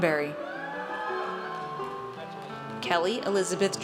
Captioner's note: audience cheers